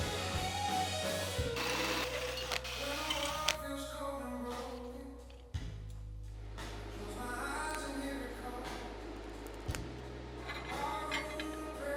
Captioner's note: TIG welding